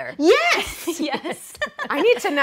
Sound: laughing

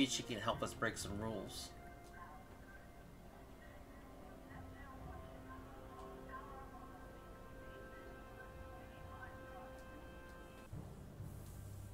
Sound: TV playing in the background

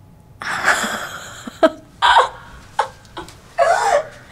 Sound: laughing

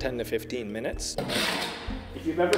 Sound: shovel scrapes wheelbarrow

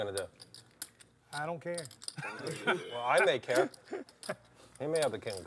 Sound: laugh

